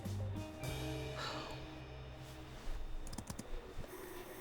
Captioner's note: Rachel sighs